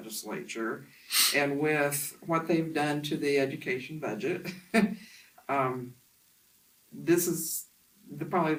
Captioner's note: laughs to self